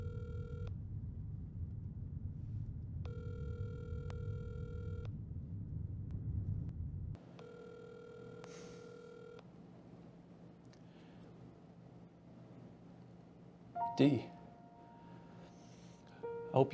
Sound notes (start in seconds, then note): 9.0 sighing; 16.0 somber music